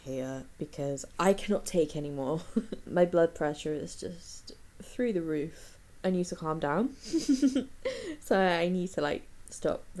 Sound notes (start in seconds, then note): 7.2 laughs